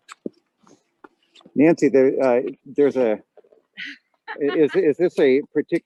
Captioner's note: laughing